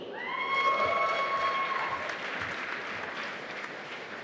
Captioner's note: applause